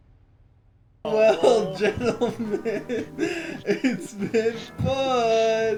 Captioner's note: laughing